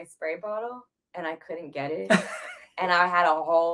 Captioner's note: laughs